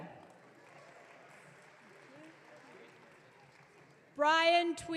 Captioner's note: audience cheering